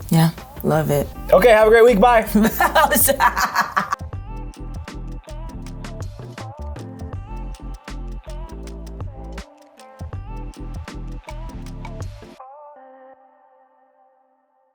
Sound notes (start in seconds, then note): 2.3 laughing; 4.5 funky relaxing music